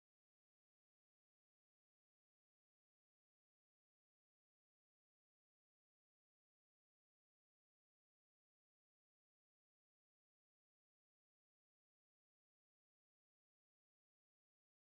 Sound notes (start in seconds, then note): none